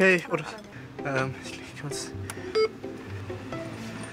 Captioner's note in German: Klingelton